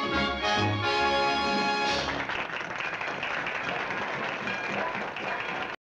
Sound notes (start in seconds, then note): 1.9 applause; 4.4 train bell ringing